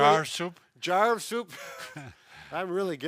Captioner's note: laughs